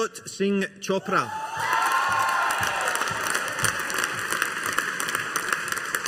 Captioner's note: audience applauding